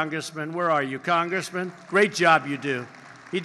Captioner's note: applause